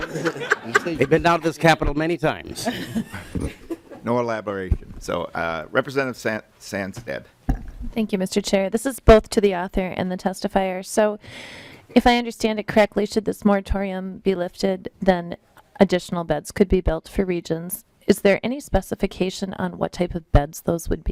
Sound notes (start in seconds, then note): 6.6 laughing